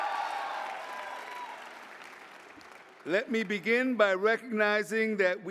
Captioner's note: cheering